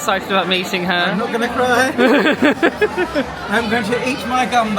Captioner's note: laughing